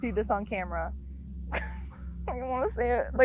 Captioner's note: crying